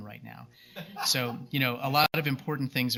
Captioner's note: laughs